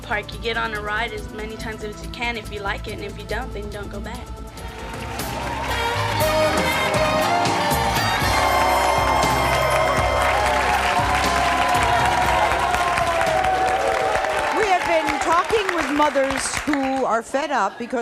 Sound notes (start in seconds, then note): 5.0 clapping; 5.0 upbeat music